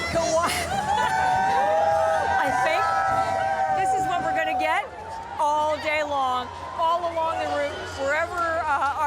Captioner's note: cheering